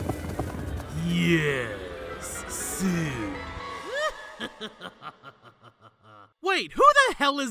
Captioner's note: cackling